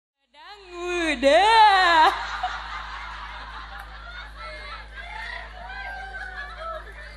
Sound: laughs

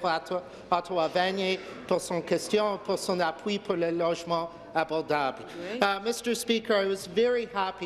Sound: speaking in French

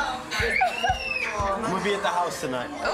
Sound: laughs

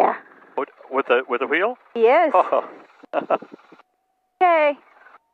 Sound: chuckles

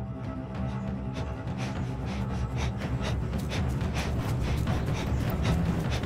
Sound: man breathing fast

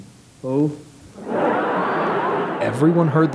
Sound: laughter

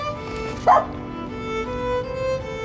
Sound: bark

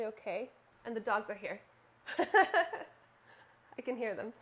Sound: laughing

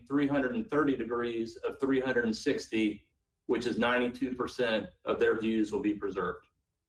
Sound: ~audio distortion~

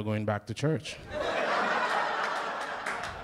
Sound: laughter

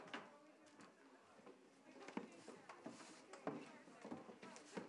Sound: people chattering

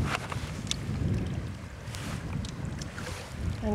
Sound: wind whirling

